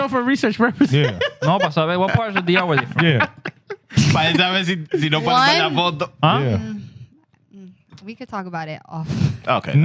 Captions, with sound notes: for research purposes. (Laughing) What part is DR with you from? Yeah. (Speaking Foreign Language) We could talk about it often. Okay.